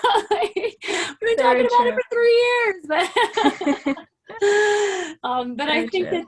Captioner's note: laughter